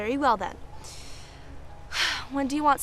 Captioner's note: sigh